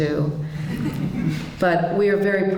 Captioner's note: polite laughter